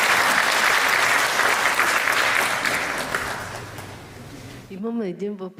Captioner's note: applause